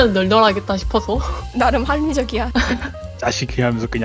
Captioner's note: laugh; laugh